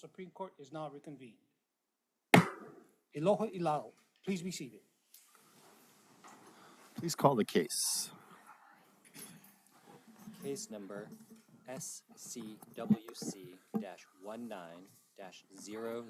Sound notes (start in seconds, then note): 2.3 gavel bangs once